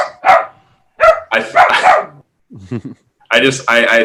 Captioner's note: dog barking